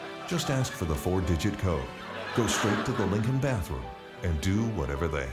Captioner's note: laughter